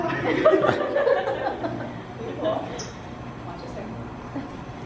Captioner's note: students laughing